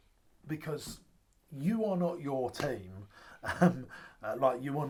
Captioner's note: laughs